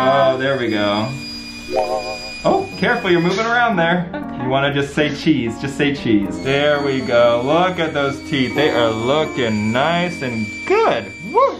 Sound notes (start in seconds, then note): 0.0 machine whirring; 1.4 playful music